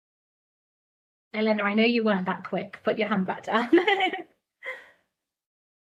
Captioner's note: laughs